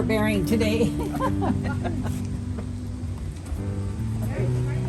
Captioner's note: women laugh